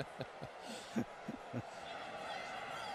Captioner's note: laughing